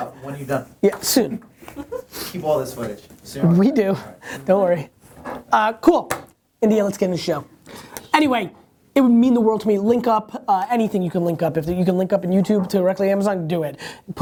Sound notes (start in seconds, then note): 4.2 laughs